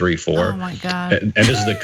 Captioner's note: laugh